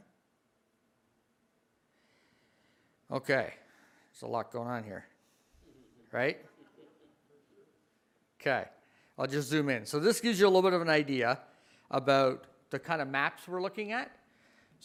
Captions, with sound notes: Okay. There's a lot going on here, right? (audience laughs) Okay, I'll just zoom in. So, this gives you a little bit of an idea about the kind of maps we're looking at.